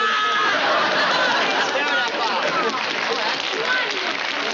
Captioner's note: applause